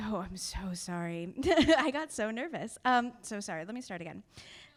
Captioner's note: chuckling